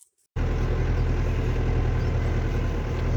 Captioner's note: tractor motor running